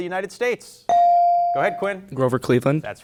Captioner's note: bell rings